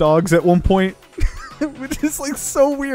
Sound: laughs

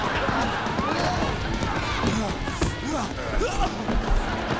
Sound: grunting

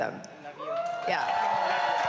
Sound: cheering

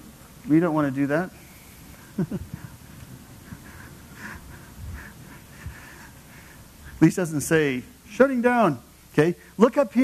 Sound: laugh

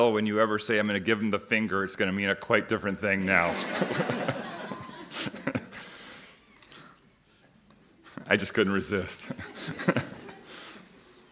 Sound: laughing

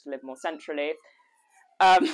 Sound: siren wailing

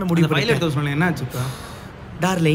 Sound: people talking in background

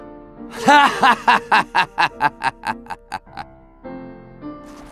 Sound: Medic_laughhappy02

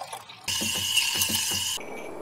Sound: coffee steaming noises

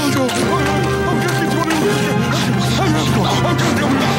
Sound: groaning

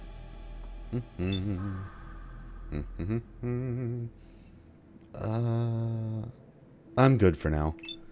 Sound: nonchalant humming

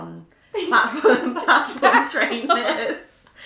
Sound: laughing

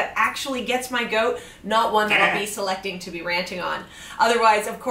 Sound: makes goat noises

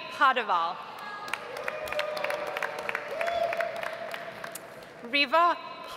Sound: audience applauds

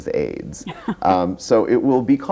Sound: laughs

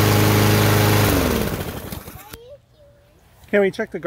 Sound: lawnmower shuts off

